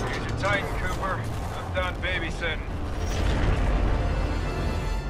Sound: radio

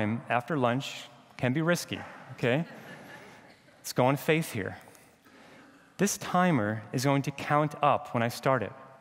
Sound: laughter

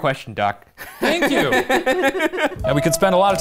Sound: laughing

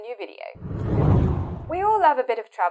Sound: screen whooshing

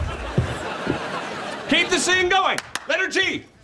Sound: clapping

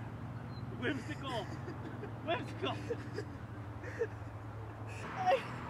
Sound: laughing

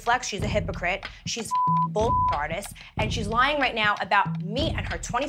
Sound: beep

